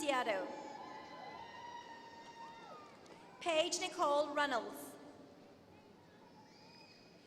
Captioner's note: applause